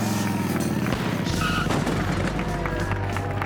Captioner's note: crash